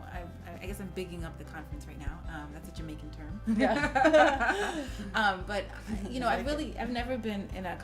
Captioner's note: laughing